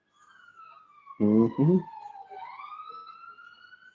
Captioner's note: sirens wailing